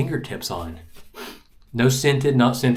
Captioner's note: sniffs